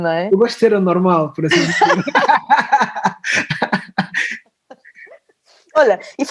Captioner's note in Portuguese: risos